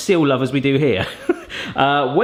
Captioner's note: laughs